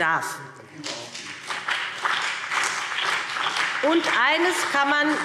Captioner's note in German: Beifall BÜNDNIS 90/DIE GRÜNEN und CDU